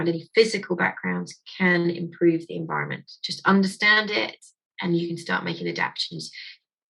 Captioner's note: none